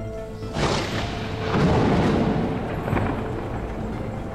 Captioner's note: thunder cracks